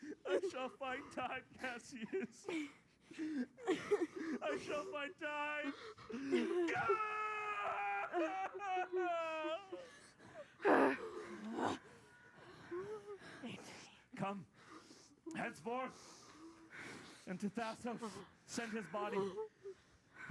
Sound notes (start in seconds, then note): 6.6 screams